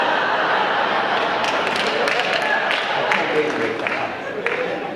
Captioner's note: audience laughing; audience clapping